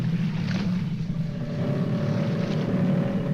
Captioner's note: growling